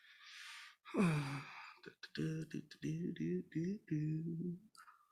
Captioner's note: singer humming